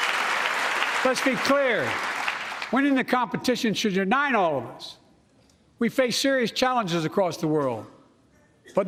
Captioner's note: applause